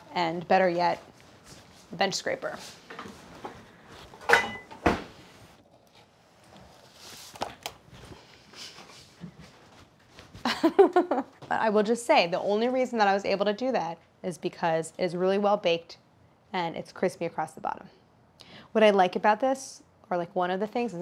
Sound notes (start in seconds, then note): 4.2 utensils clanking; 10.4 Claire laughs